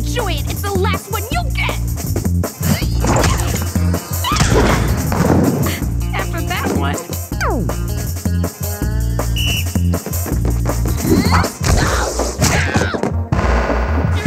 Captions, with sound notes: Enjoy it. It's the last one you'll get! Hi-ya! Hi-ya! After that one. [whistle blows] Ah, d'oh! Ha!